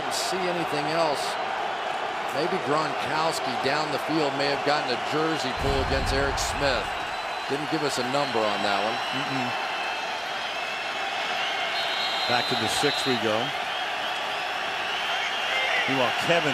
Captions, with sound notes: I really didn't see anything else. Maybe Gronkowski down the field may have gotten a jersey pull against Eric Smith. Didn't give us a number on that one. Mm-hmm. [whistle] Back to the 6, we go.